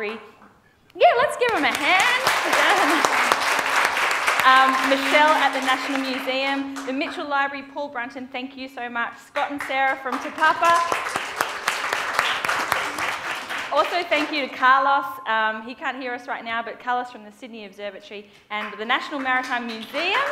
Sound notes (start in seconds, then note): 1.4 presenter and the audience applaud; 10.9 presenter and the audience applaud